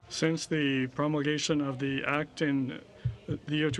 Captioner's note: speaking french